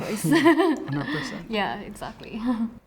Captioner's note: both laughing